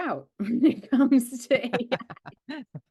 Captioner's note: laughing